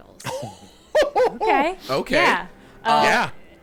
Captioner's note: laughing